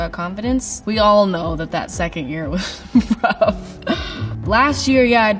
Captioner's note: laughs